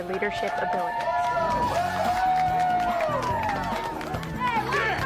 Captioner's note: cheering and applause